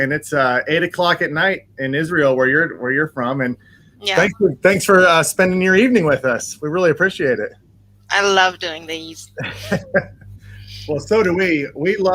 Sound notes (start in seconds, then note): 9.2 laughs